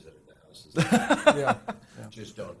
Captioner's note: laughs